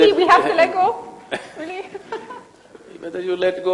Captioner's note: Sadhguru laughs